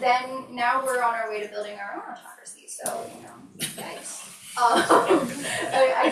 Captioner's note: laughs